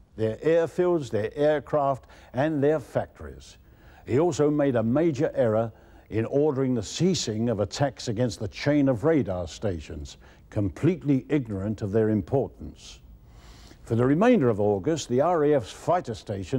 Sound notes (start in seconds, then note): none